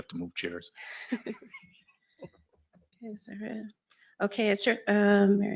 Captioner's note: people chuckle